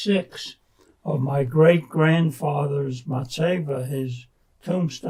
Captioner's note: non-english